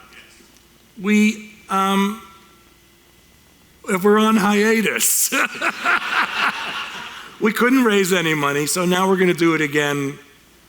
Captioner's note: laughter